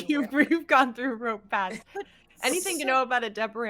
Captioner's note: laughing